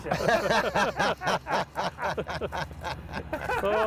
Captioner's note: laughs